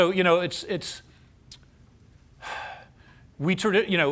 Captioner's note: sighs